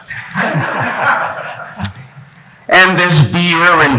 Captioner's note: laughing